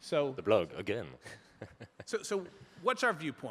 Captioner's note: chuckles